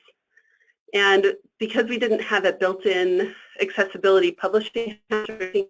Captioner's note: static